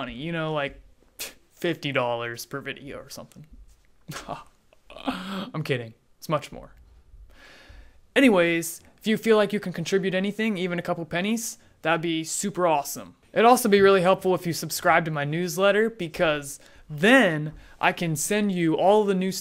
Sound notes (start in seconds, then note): 4.1 laughs